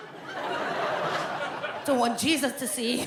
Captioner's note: audience laughs